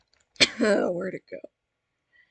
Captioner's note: cOuGh